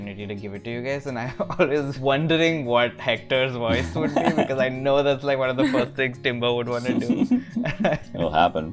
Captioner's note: laughter